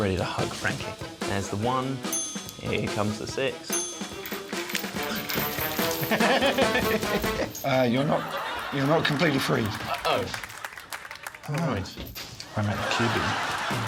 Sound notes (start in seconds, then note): 5.8 giggling; 6.6 chains rattling